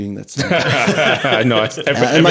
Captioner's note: laughing